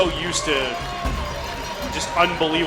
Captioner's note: crowd Noise